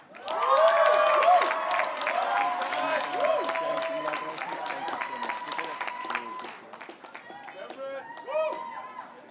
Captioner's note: applause